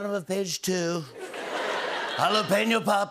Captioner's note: as Trump; laughter